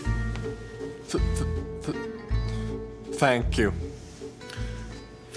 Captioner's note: stuttering